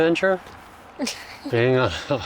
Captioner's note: laughing